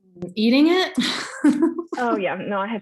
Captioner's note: laughs